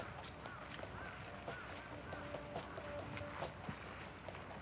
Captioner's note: footsteps crunching